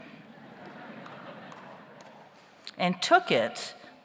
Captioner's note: audience laughs